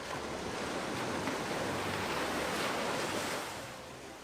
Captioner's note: wind rustling